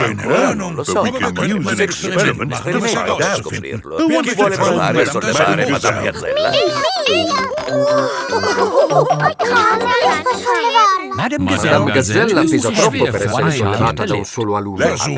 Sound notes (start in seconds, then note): 7.9 chuckles; 7.9 straining